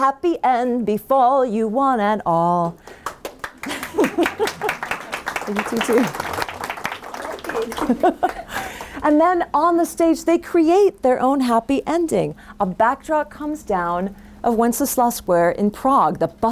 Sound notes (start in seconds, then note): 2.8 applause; 6.5 laughs